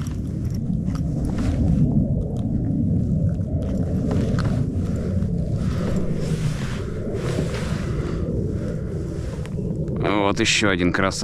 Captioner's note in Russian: звук реактивного двигателя